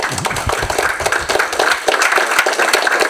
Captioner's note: audience applauding